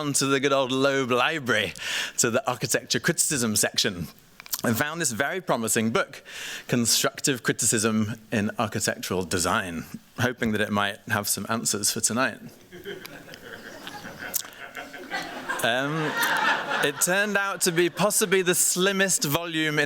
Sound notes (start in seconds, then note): 12.6 laughter